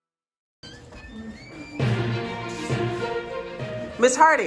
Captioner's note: door opening, news show music